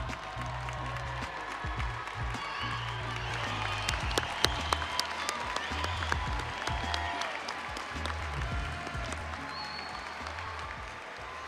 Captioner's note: audience applauding; audience cheering